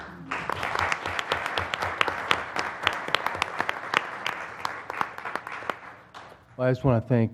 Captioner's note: applause